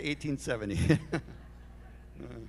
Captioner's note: laughter